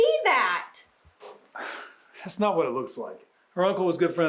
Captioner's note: Jim scoffs